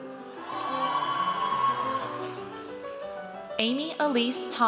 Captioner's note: audience cheers